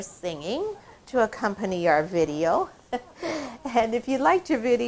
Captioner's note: laughing